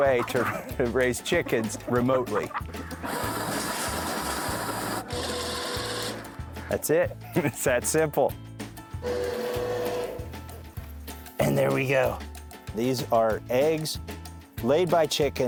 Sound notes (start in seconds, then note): 0.0 chuckles; 2.7 machine running; 7.0 chuckles; 9.0 machine revving